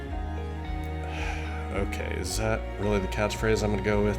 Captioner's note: sigh